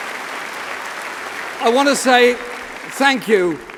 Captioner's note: applause